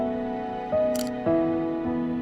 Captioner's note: camera click